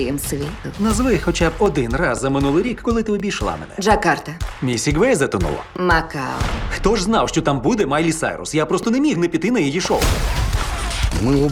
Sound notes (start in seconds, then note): 9.8 gunshots